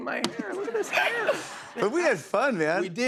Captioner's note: laughter